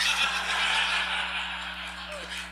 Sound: laughs

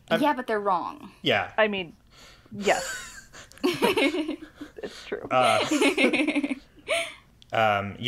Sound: laugh

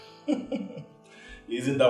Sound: chuckles

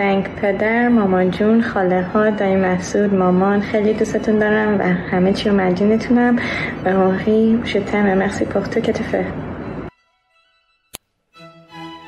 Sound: non-english speech

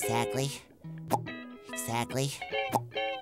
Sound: popping; popping

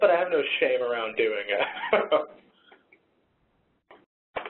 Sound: laughs

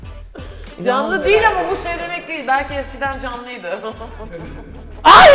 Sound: evil laugh

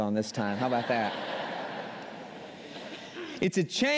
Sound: laughter

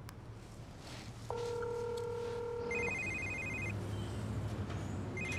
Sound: phone ringing

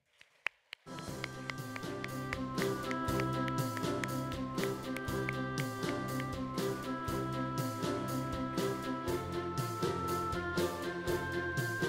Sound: applause, music

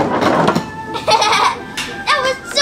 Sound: girl giggles

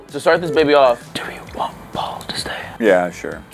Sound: whisper

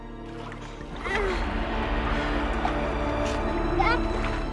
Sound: boy 2 grunts; moans

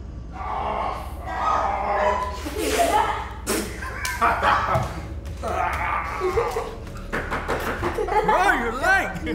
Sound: animal imitating sounds

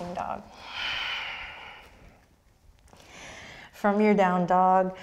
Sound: deep breath

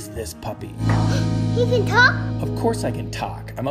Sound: gasps

